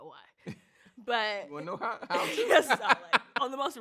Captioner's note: laughs